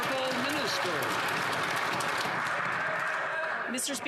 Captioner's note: some Applause